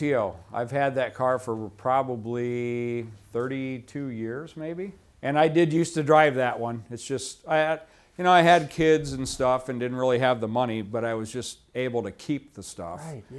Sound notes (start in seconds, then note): none